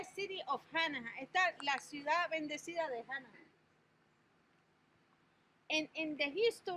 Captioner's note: speaking in Spanish language